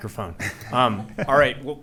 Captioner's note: laughing